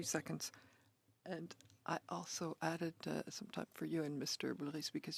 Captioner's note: speaking French